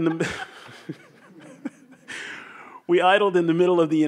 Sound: laugh

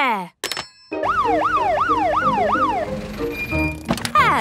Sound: siren sounding

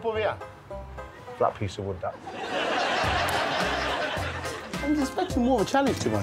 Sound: audience laughing

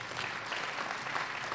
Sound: applause

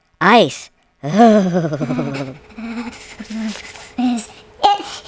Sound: shivers

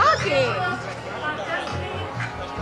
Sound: laughing

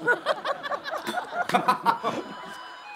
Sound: doorbell

